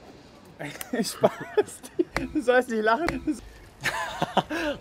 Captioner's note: laughs